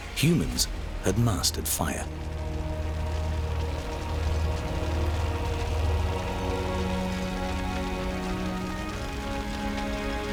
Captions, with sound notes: Humans had mastered fire. [crackling fire]